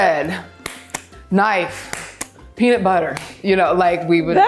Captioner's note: hands slap